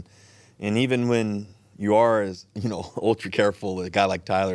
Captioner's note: chuckles